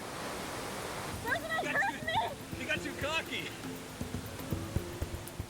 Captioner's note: yells